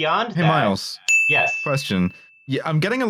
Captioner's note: ding!